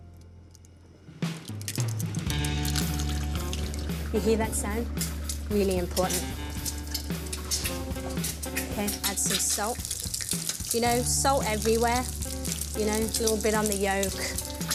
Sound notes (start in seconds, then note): 1.6 popping